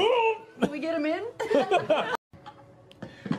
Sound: laughing

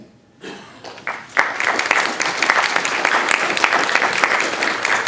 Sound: applause

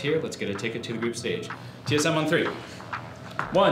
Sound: none

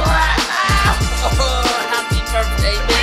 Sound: grunting

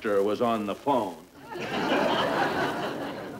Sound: audience laughing

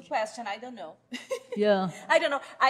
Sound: laughs

